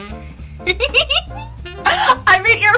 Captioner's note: giggles with pride and joy